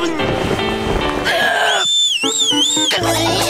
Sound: whistling

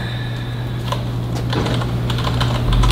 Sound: typing

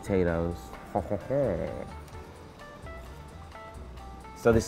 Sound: chuckling

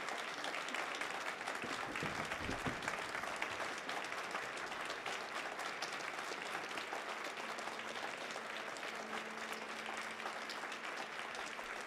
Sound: applause

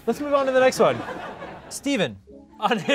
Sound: laughter

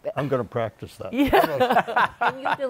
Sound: laughs

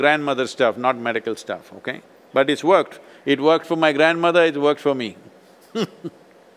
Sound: laughs

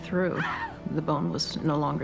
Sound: scream

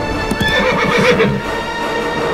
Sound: horse neighing

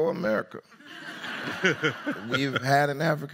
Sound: audience laughs

